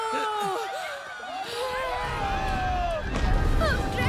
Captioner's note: townsponies screaming